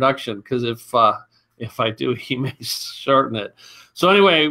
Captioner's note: chuckling